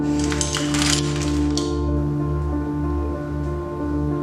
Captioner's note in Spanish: sonido de engranajes